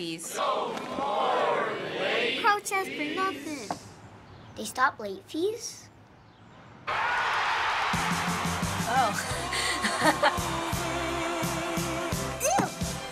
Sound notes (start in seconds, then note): 0.1 crowd; 6.8 crowd cheering; 9.0 laughs